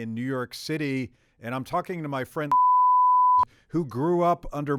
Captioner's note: beeps